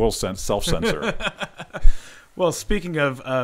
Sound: laughing

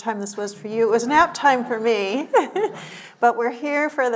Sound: chuckles

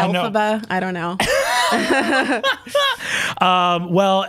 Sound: both laugh

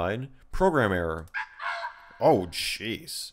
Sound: program error sound

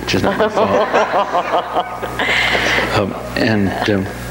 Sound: audience laughs

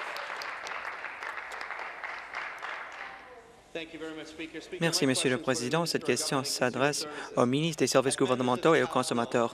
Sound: applause

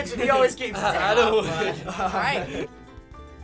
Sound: laughter

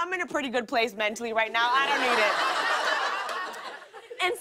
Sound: laughter

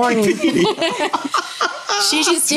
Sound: everyone laughing

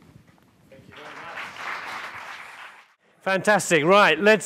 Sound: applause

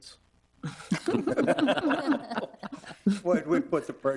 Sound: all laughing

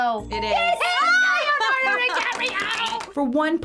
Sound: cheering

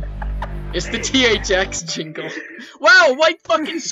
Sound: giggling

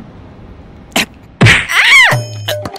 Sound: shouts

